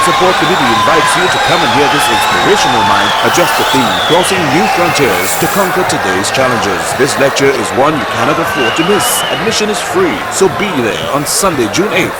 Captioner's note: wild applause and cheering for 22 seconds